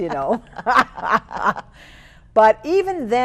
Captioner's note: laughing